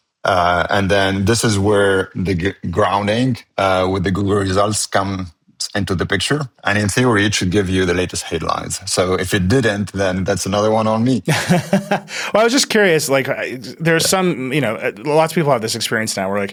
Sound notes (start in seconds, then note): 11.2 laughs